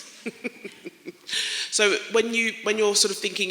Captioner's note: laughter